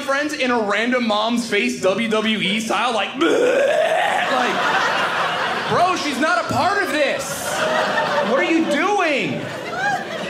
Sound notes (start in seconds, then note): 3.2 grunts; 3.8 audience laughing; 9.6 audience laughing